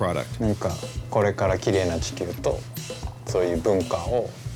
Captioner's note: speaking Japanese